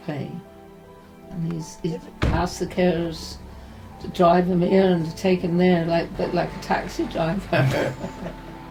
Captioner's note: parents laugh